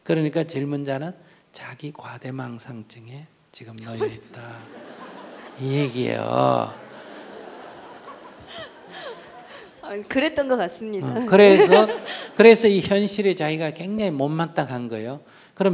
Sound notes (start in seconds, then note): 3.9 audience laughs; 11.2 inquirer laughs